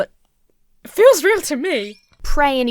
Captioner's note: sobs